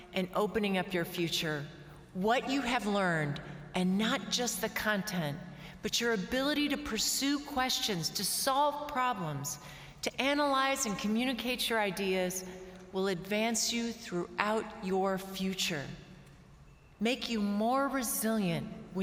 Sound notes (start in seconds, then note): none